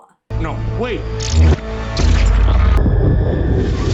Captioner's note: powers buzz